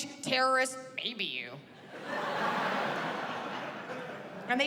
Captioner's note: laughter